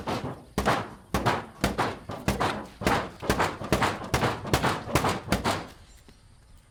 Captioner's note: continues to bang loudly